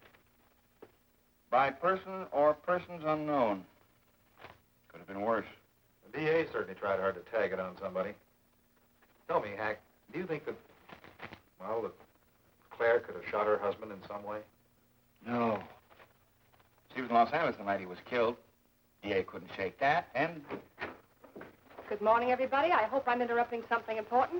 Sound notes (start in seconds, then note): 20.4 door opens